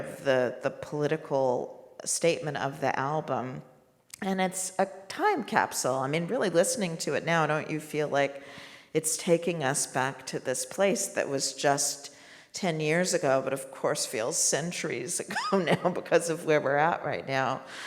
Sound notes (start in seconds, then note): 15.5 laughs